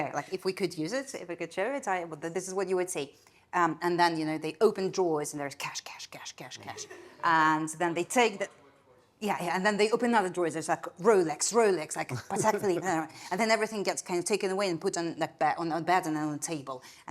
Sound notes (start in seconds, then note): 6.8 attendees laughing; 12.1 chuckling